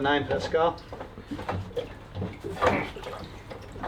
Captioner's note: grunting